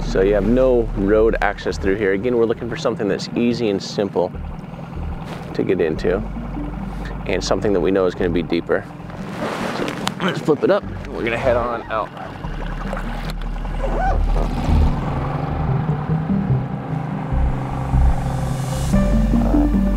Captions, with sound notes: So you have no road access through here. Again, we're looking for something that's easy and simple to get into and something that we know is gonna be deeper. I'm gonna flip it up and we're gonna head on out. (dramatic music) (boat spluttering)